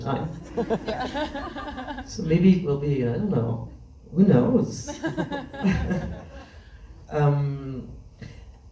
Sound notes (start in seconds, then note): 0.4 laughs